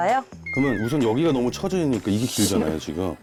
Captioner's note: measuring SFX